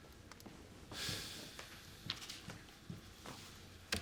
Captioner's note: sighing